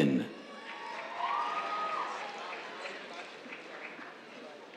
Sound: cheers, applause

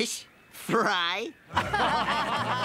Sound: laughter

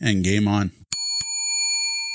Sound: bell dings

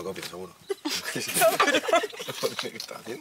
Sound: laugh

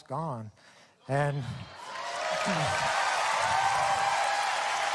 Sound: audience cheering

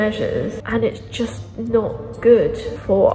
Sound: echoing

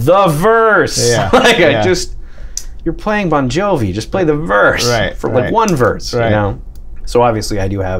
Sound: laughter

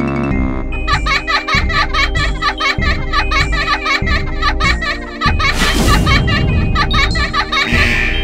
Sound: children Laughing

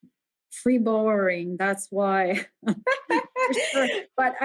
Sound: chuckle

